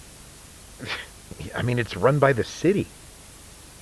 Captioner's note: scoffs